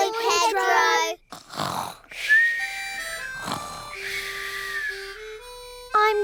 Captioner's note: all snoring